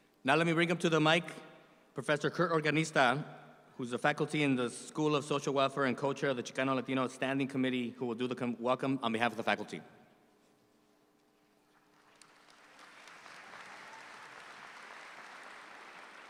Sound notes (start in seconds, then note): 11.8 audience applauds